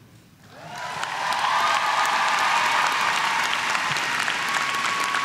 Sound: crowd cheering

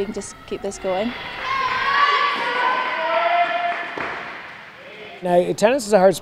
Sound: cheering

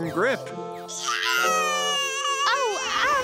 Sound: baby crying

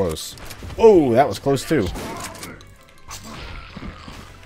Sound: more gunshots

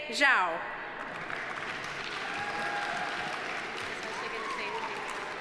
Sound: audience applauding; audience cheering

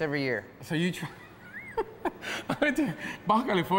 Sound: laughs

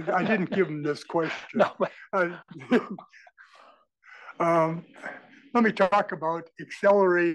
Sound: laugh

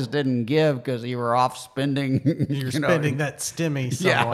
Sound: laughs

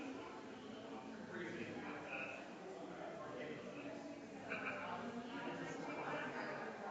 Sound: people chattering distantly continues

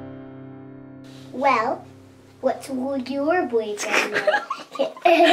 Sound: giggling

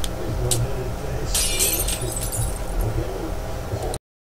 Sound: glass Shattering

